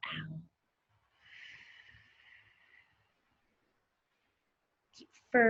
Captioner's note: exhales heavily